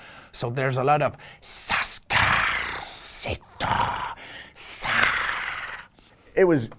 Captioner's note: alien sounds